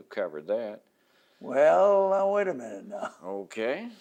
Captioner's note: laughs